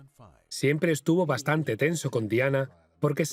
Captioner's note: voiceover